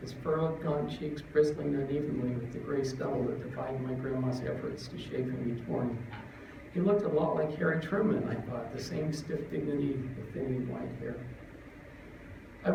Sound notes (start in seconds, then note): none